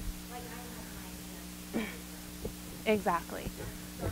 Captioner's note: microphone feedback drowning out audience member